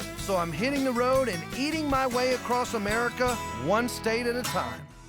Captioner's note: none